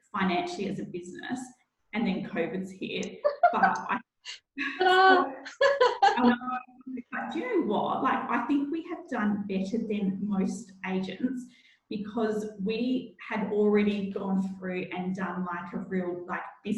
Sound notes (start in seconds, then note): 3.1 laughing